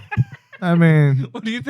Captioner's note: laughing